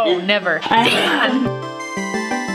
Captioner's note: while coughing